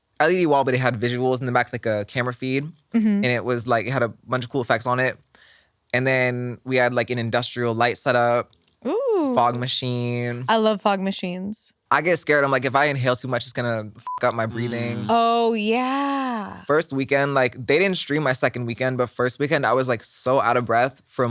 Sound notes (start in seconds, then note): 14.0 beep